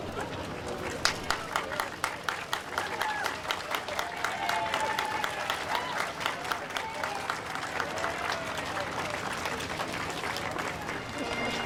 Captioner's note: applause